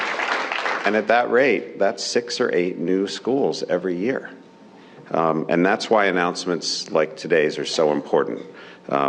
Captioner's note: cheers and applause